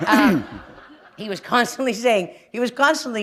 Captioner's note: laughter